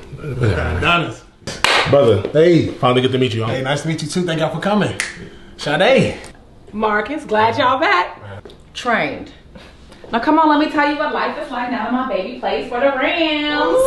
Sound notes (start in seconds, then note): 1.4 clap; 5.4 snaps